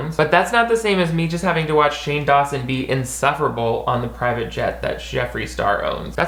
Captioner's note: none